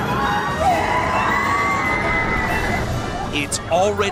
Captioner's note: riders screaming